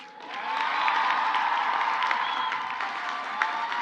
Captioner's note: crowd applauds; crowd cheers